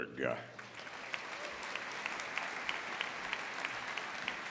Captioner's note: audience applauding